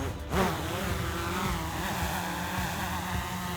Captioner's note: upbeat music; rotors buzzing